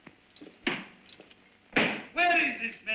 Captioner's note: book slams on desk